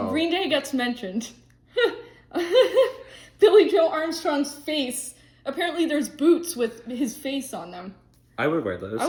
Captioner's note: laughs